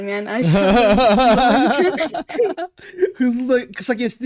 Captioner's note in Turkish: Gülüşmeler